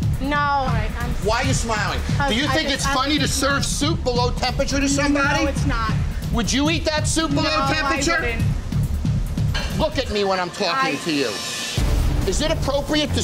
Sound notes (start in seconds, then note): 1.8 woman stammering